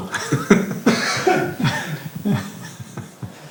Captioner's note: Jonas laughs; Amazias laughs shortly; Jonas continues laughing